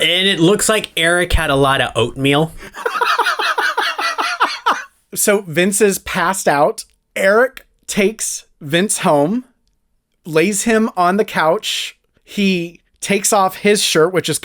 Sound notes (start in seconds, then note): 2.6 laugh